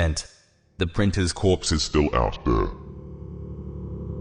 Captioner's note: voice turns demonic